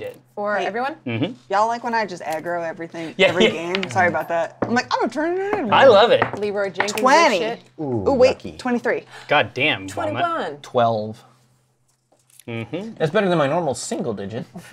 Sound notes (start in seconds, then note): 9.1 gasp